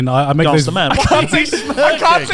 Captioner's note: all laughing